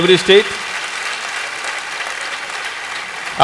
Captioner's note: applause